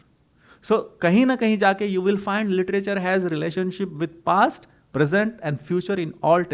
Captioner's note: hindi